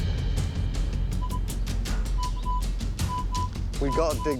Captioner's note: beeping